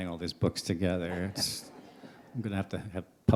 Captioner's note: laughter